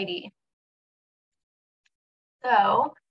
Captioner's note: silence